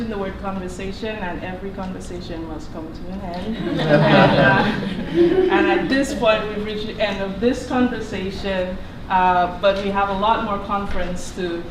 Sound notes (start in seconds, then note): 3.4 laughter